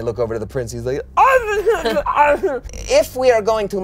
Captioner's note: groans